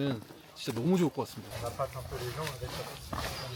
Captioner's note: birdsong echoes through the forest